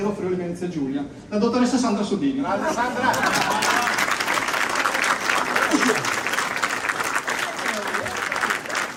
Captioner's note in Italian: Applauso